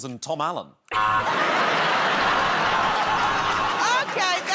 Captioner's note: laughter